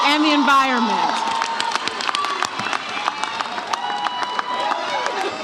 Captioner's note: audience cheers